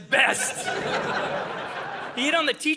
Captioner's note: audience laughing